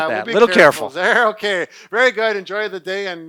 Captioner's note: chuckling